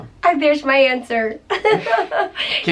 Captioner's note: chuckling